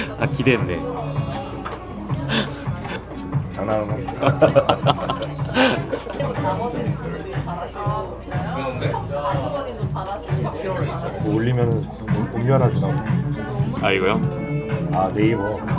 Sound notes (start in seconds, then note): 3.1 jokingly